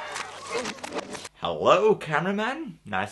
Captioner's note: record scratch